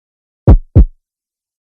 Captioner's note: heartbeat; silence